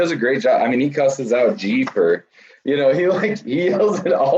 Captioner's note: laughs